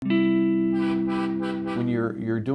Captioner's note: soft music; truck honking